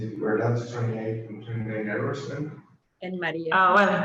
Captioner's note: indistinct background chatter